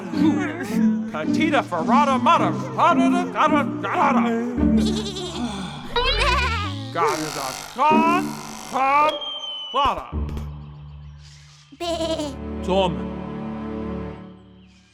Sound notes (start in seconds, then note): 4.7 sheep bleating